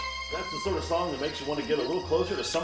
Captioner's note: radio Announcer